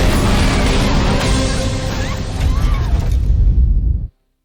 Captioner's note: woman screams